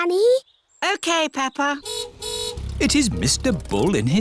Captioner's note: car horn honks